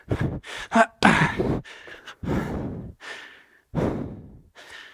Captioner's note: breathing heavily